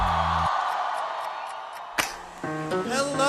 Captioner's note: cheering